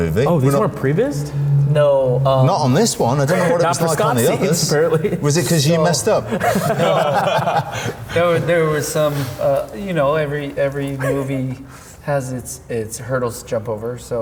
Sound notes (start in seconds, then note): 6.5 group laughing